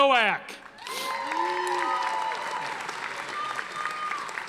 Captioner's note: audience applauding